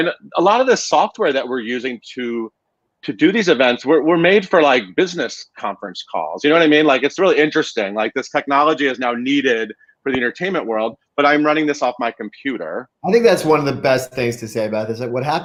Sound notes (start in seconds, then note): none